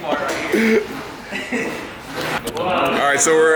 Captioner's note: laughter